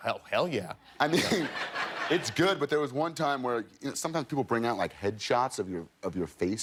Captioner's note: laughter